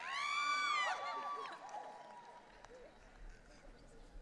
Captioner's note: audience cheering